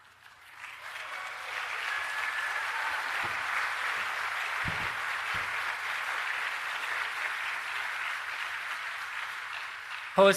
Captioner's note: applause